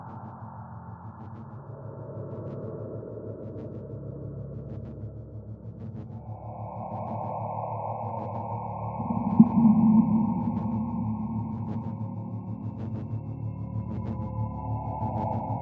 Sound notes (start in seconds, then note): 9.8 distorted chilling tone